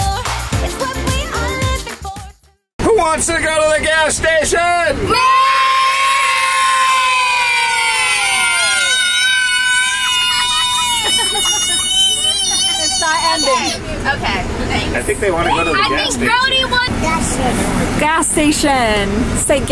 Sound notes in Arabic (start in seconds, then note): 5.0 الجميع يهتفون